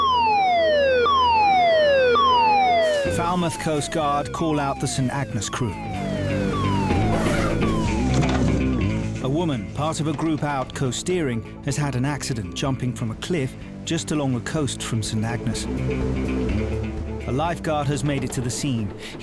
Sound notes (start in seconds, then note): 0.0 alarm blaring; 7.8 dramatic music